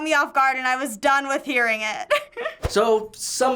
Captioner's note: chuckles